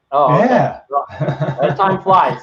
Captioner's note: laughs